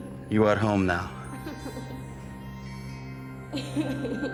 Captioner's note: laughter